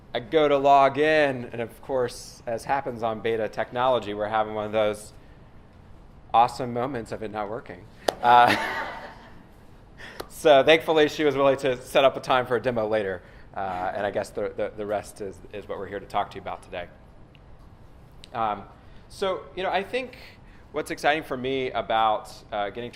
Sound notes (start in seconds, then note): 8.2 laughter